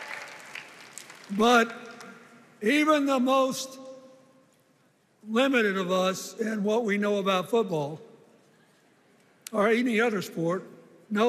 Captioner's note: cheers and applause